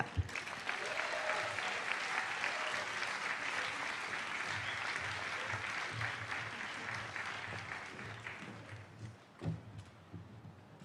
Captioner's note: applause